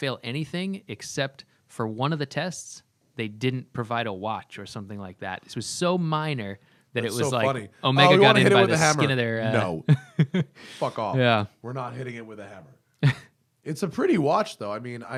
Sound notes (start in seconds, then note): 8.4 laughter